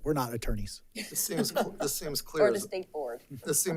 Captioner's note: attendees laughs